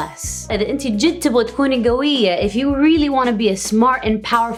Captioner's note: foreign language